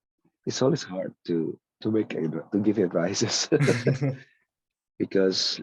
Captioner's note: laughs